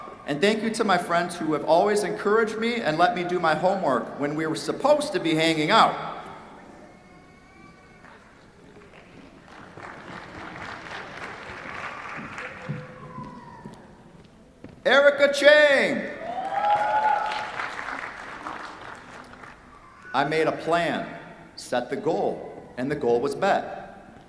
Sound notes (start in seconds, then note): 8.8 applause; 16.2 cheers, applause